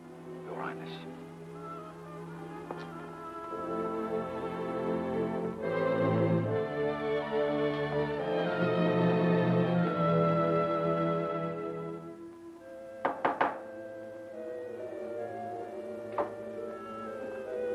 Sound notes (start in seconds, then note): 6.5 ominous music; 13.0 knocking; 13.6 suspenseful music